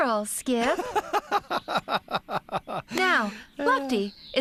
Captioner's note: laughing